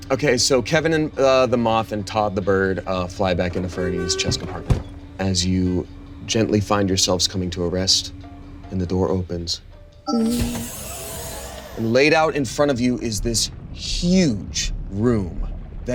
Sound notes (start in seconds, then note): 10.1 hydraulic doors hissing